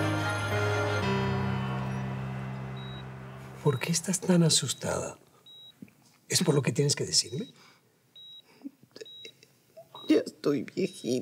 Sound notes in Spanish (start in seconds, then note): 3.6 sonido de telemetría